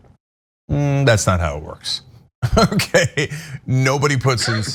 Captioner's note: laugh